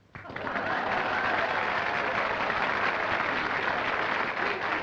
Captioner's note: applause and cheering